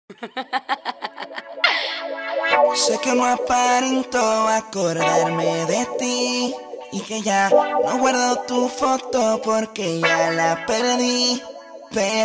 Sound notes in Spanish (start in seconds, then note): 0.0 risas